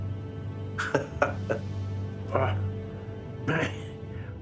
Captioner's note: laughs